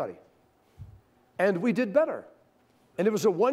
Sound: none

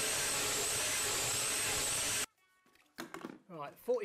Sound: drilling

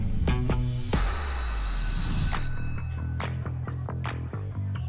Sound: bell rings; upbeat music

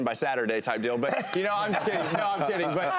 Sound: laughter

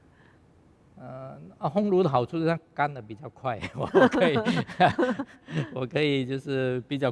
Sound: laughs

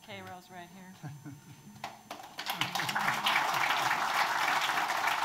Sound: audience applauding

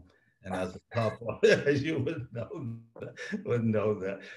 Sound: laughs

